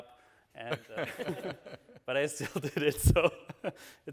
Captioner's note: all chuckling